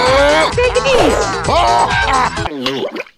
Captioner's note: Monster continues to laugh at Mario